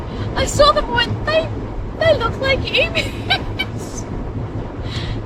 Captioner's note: cackles more